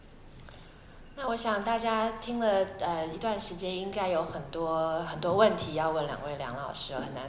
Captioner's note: Mandarin